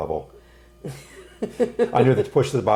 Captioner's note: laughing